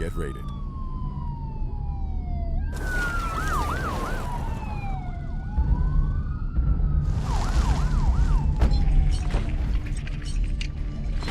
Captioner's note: sirens